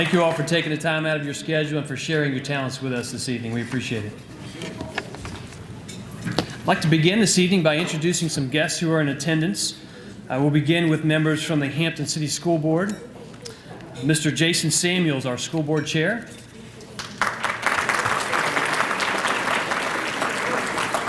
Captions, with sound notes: Thank you all for taking the time out of your schedule and for sharing your talents with is this evening, we appreciate it. I'd like to begin this evening by introducing some guests who are in attendance. I will begin with members from the Hampton City School Board. Mr. Jason Samuels, our school board chair. (applause)